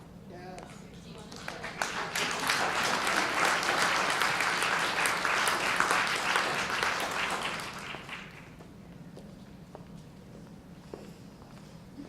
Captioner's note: audience applause